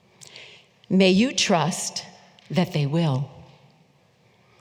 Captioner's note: none